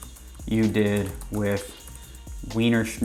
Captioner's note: keyboard typing